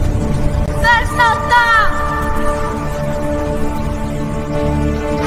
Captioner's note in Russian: крик